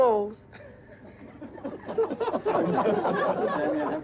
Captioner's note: all laughing